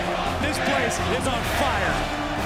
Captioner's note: fans chanting